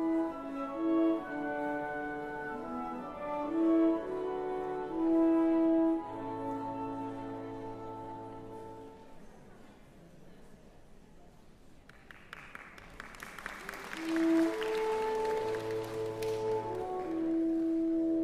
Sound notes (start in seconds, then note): 11.8 applause; 13.9 serene music